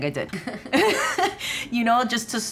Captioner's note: both laughing